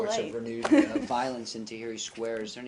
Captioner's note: laughter